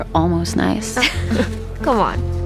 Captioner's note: laughs